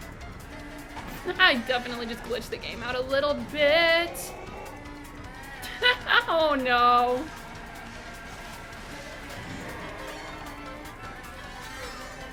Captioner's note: laughs